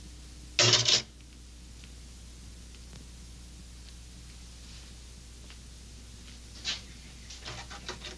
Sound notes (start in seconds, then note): 0.7 harmonica clattering